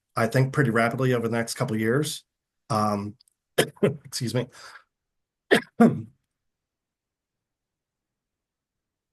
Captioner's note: coughing